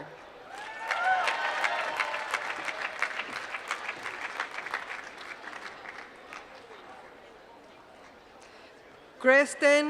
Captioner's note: applause